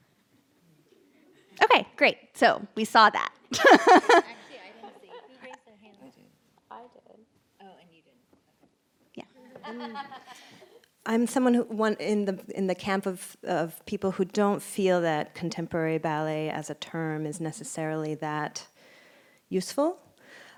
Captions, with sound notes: Okay great. So we saw that. [Laughs] I'm someone in the camp of people who don't feel that contemporary ballet as a term is necessarily that useful